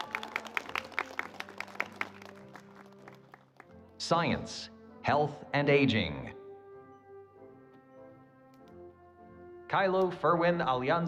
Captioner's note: cheers and Applause